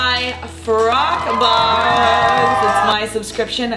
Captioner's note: crowd cheers